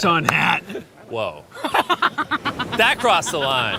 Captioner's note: laughs